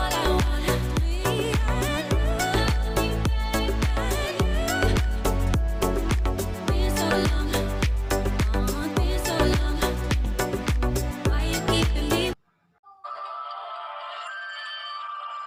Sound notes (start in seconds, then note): 6.2 clap